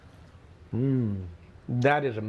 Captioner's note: hums